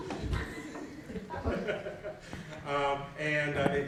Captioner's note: audience laughing